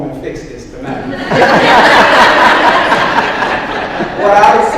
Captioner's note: audience laughs